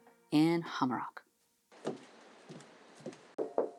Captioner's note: footsteps